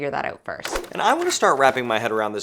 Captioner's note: screen whooshes